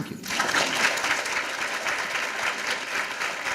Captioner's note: applause